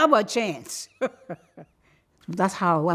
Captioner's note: laughs